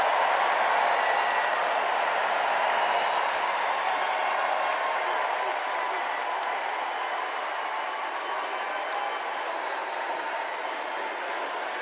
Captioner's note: cheers and applause